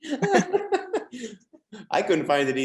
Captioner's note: laughs